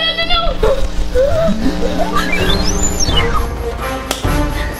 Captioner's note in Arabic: الأصوات يلهث; صوت التصفيق